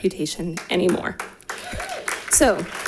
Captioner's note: audience applauding